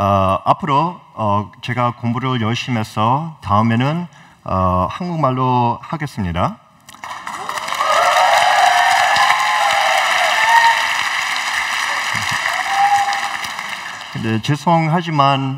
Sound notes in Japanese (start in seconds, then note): 7.0 拍手と歓声